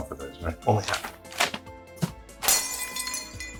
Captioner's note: breaking glass sound